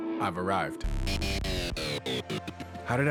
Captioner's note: turntable scratch